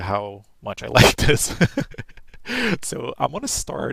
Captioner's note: laughs